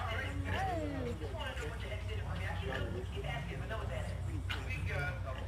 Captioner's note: radio chatter in background